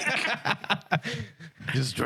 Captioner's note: laughing